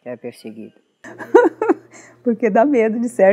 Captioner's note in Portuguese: risos